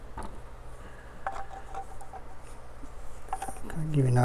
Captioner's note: none